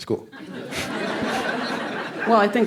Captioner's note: crowd laughs